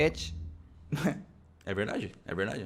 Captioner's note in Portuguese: Risos